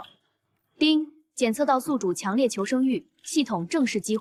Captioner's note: ding!